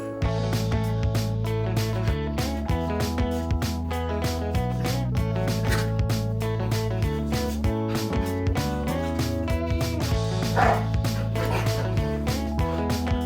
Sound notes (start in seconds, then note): 10.2 playful Growling And Snarling; 10.4 loud Bark